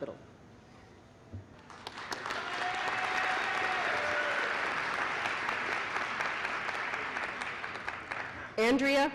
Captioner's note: applause